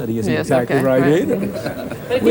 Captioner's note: laughter